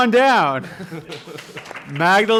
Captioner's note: applause